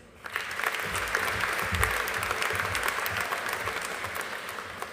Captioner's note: audience applauding